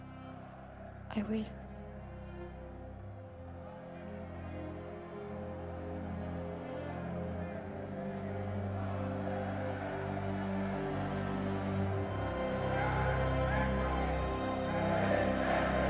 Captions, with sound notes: (crowd chanting) - I will. (crowd chanting) (dramatic orchestral music) - [Crowd] Praise Henry! Praise Henry!